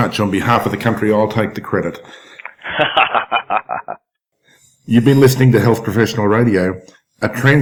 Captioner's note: laugh